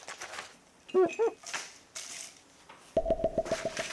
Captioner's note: rummaging